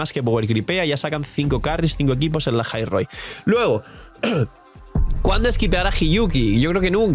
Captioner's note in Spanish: carraspeo